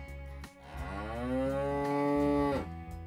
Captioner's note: cow Moo